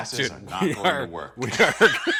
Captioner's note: laughter